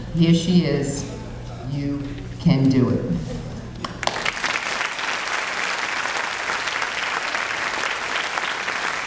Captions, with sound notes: Here she is. You can do it. (audience clapping)